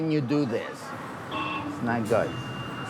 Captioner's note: intercom rings